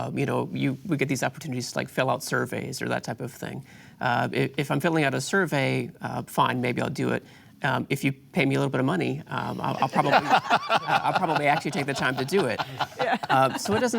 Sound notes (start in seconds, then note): 9.6 laughter